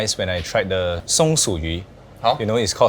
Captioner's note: in Mandarin